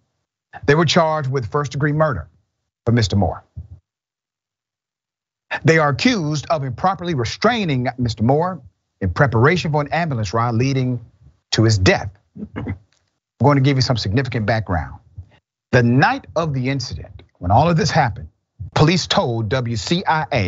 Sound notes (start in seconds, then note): 12.4 cough